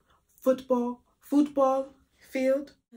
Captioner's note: Spanish accent